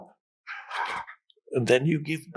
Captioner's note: Eckhart inhales